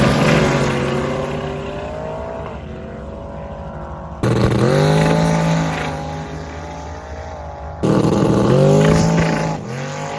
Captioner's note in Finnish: Moottorin ääntä